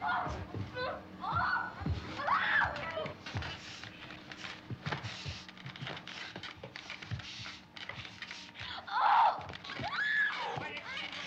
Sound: screaming

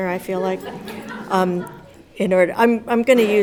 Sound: audience laughs

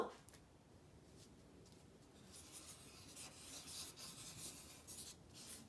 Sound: pens scratching

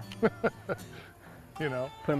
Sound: laughter

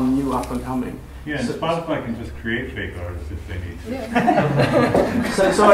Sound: laughter

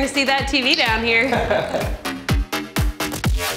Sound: laughter

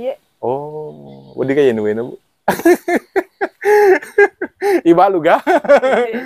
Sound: laughs

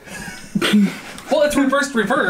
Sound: laughs

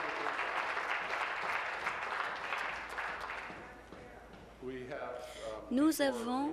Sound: applause; voice trailing; applause

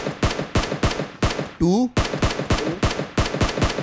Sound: gunshots

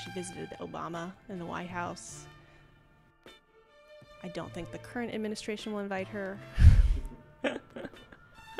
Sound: laughs

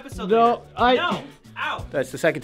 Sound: stammering

